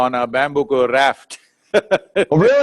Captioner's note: laughs